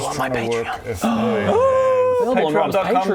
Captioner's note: excited gasp